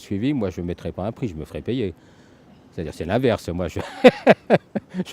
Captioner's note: laughs